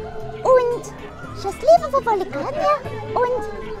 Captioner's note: Ukrainian